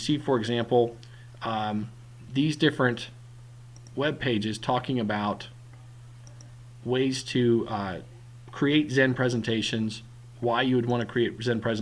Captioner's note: click; click